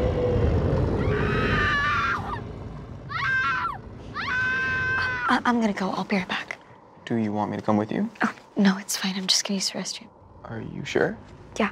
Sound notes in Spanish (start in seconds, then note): 1.1 mujer gritando